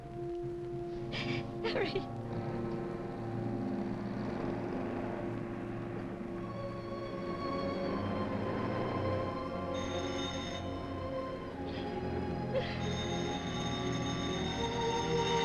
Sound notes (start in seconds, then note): 9.7 phone rings